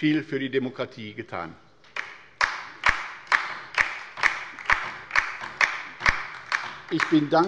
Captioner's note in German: Beifall bei der LINKEN